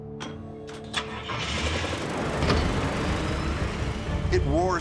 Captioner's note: engine starts